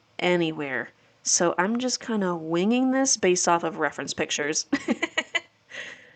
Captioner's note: laughing